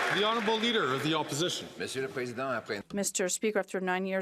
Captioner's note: some Applause